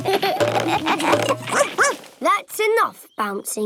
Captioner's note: all laugh; barks